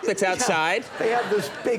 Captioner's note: audience laughing